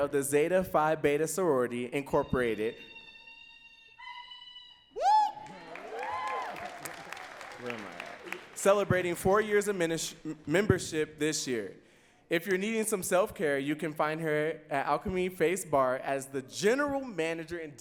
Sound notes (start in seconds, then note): 2.7 lady giving sorority chant; 4.9 audience cheering and clapping